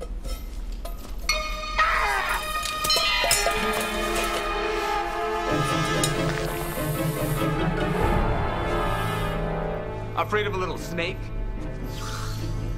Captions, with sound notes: (screams) (dramatic orchestral music) - Afraid of a little snake?